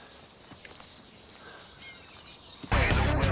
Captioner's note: birds chirping; heavy metal music